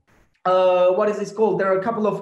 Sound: Turkish

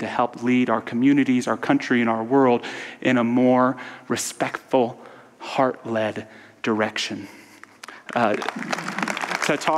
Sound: audience applause

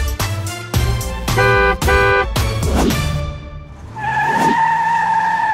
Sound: horn honking

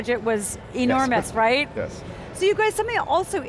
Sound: laughing

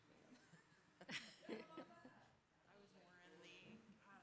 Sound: all laughing

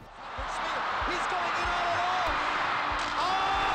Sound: cheers and Applause

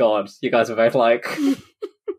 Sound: laughing

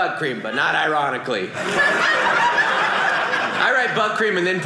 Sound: audience laughing

